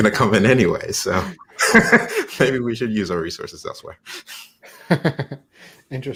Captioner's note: laugh